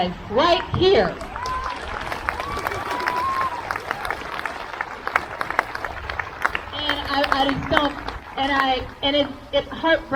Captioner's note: crowd cheers